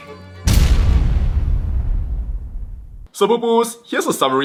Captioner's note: dramatic sound